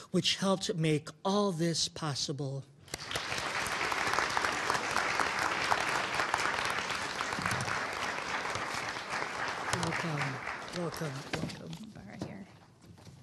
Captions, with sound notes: which helped make all this possible. (audience applauding) Welcome, welcome, welcome.